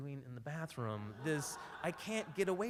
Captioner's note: laughs